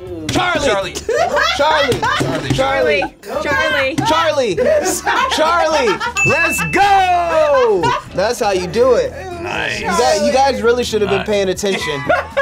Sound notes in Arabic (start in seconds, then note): 6.1 قرع الجرس